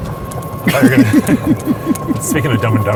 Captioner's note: laughing